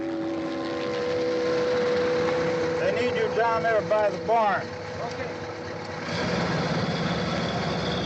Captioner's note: none